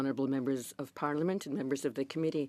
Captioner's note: speaking French